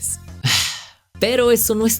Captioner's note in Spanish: suspira